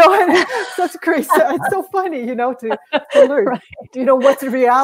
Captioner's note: laughter